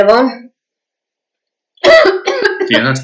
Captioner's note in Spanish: tos más fuerte